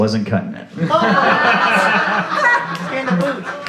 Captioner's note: laugh